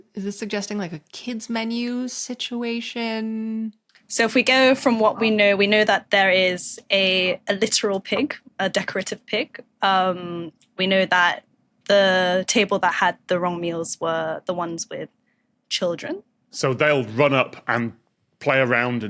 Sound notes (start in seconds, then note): none